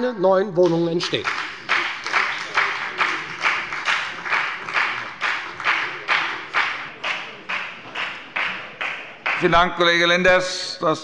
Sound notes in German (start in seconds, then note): 1.0 Beifall bei der FDP